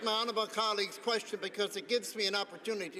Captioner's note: some Applause